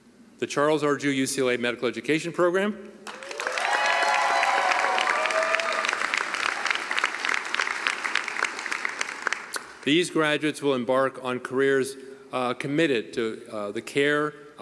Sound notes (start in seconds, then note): 5.8 cheering and applause